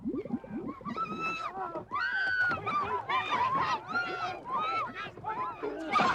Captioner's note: Hullabaloos shouting and arguing